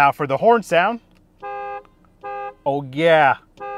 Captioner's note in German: Hupe piept